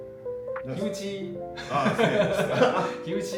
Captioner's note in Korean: 웃음